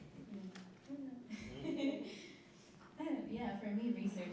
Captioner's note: laughs